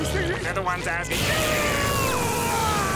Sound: yelling; screaming

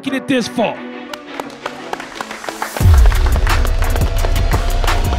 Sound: crowd applauding

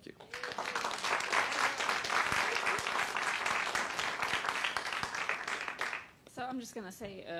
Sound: applause

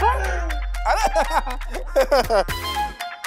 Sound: laughing

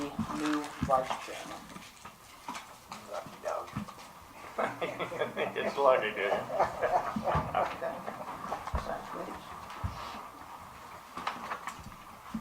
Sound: laughter

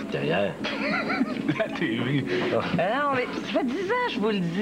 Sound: Rire

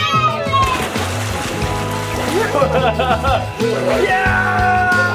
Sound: water splashing

